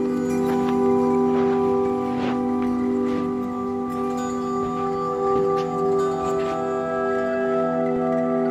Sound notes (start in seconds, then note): 0.0 footsteps